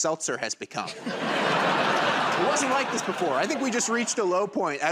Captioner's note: laughter and applause